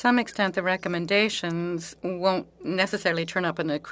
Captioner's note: speaking French